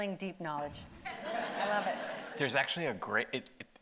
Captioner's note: audience laughing